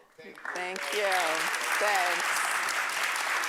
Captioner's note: applause